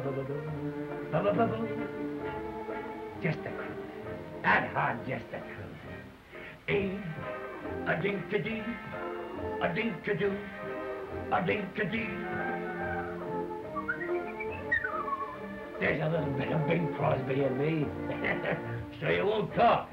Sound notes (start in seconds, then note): 13.6 whistling